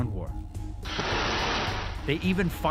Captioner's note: rocket engine ignites